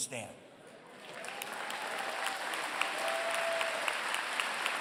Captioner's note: applause